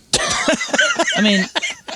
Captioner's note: laughing